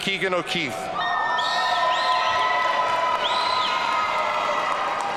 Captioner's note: audience cheering